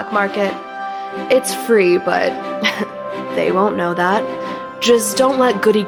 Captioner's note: chuckle